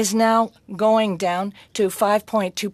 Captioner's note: speaking french